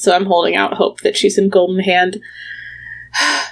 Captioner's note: sighs